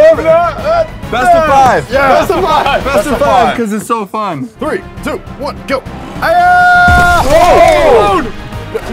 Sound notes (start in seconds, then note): 6.0 battle cries; 6.8 crashing sound